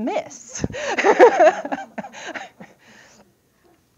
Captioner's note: laughter